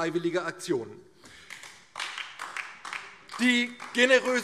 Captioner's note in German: Beifall DIE LINKE